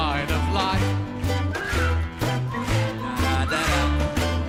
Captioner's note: whistles